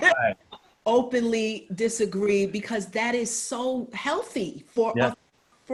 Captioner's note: laughs